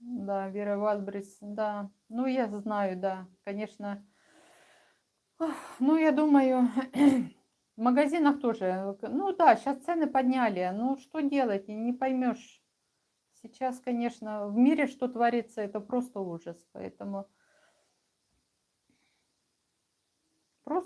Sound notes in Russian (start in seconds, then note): 6.6 откашливается